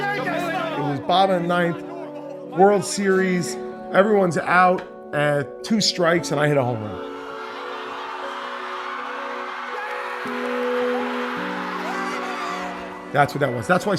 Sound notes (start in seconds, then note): 7.0 cheers and applause; 10.3 cheers and applause continue